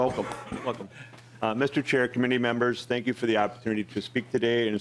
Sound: laughing

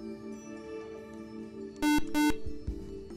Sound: buzzer

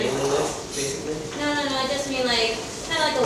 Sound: speaking off mic

